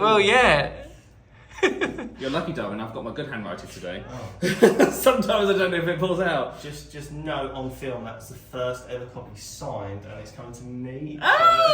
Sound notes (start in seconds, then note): 1.6 laughing; 4.4 laughing; 11.4 exclaiming and laughing